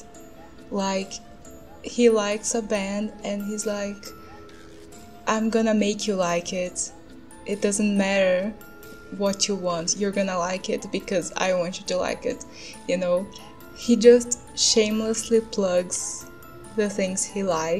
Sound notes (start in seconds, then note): none